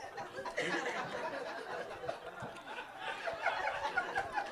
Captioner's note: audience laughing